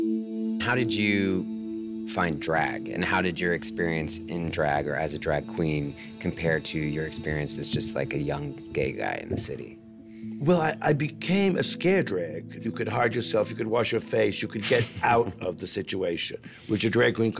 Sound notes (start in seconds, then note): 14.5 chuckles